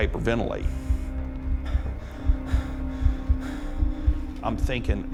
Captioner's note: panting